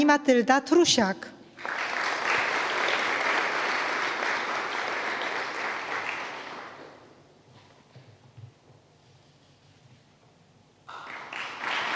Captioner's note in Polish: oklaski